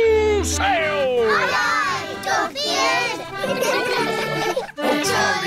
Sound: giggling

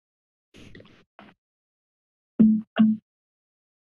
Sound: static noise

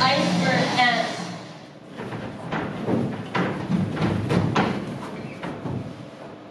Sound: sounds of crashing

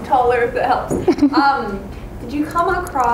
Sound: chuckles

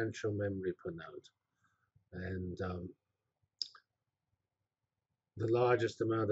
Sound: pause

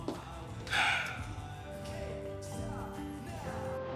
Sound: heavy sighing

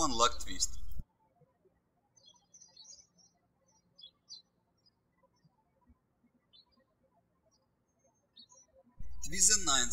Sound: birds chirping

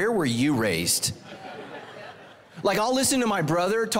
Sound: congregation laughing

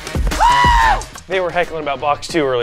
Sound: screams

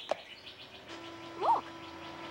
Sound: gate motor whirring

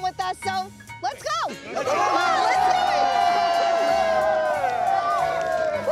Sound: crowd cheering

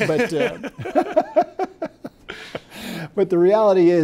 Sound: both laugh

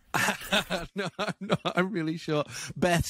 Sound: laughing

